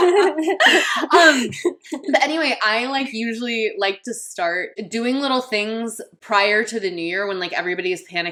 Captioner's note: laughing